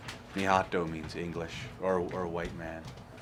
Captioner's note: foreign language